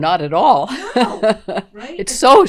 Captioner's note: laughter